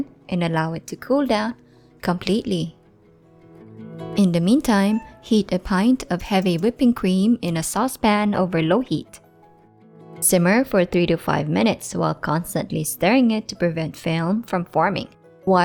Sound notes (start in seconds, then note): 4.7 Mammu meows